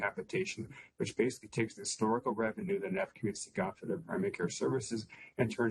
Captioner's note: audio interference